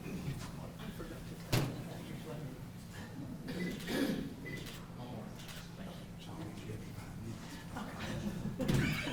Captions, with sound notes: - Let's get a picture. (camera clicking)